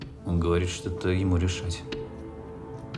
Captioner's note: translating in russian